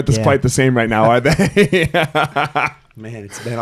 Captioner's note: laughing